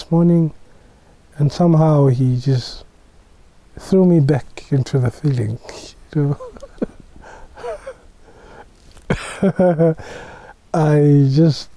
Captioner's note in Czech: smích